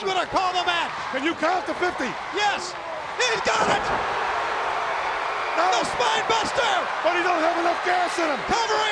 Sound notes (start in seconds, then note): 3.4 crowd cheering